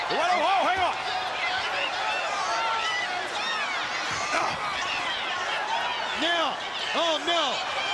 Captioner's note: crowd chatter